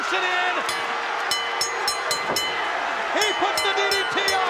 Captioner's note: bell dinging